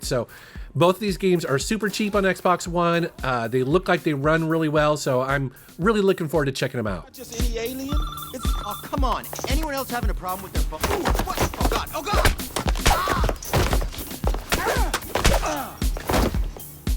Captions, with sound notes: So both these games are super cheap on Xbox One. They look like they run really well, so I'm really looking forward to checking them out. - Not just any alien. (phone ringing) Oh come on, anyone else having a problem with their phone? Oh God, oh God! (whipping sounds)